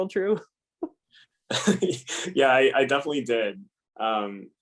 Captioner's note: laugh